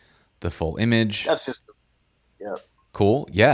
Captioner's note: audio cuts off